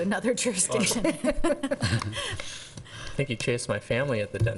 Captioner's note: laughing